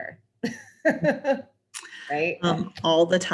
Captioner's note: laughs